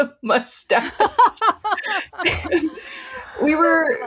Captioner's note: laughing